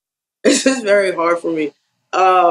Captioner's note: laugh